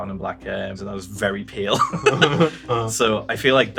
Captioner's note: laughs